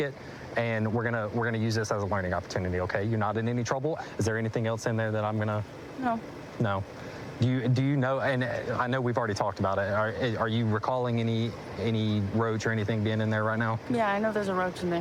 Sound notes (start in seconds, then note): none